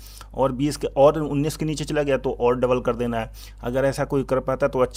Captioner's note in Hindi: नाक से की जाने वाली आवाज़